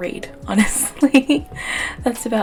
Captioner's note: laughs